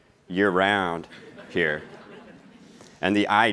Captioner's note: laughing